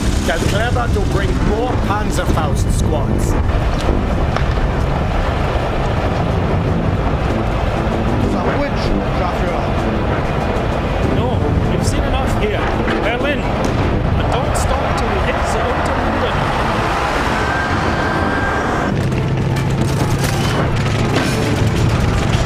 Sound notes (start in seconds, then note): 8.9 speaking foreign language; 18.9 guns firing